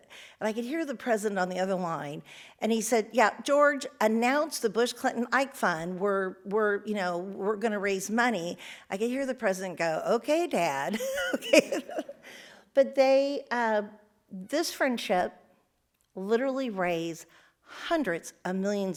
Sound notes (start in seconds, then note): 11.0 laughs